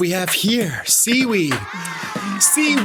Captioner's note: comic oohing